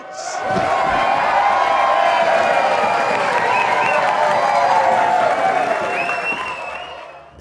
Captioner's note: cheering